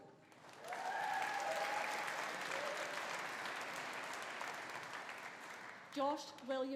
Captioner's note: audience applauding; audience cheering